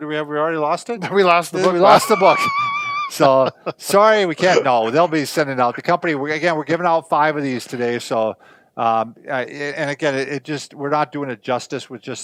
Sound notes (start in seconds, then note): 1.5 laughs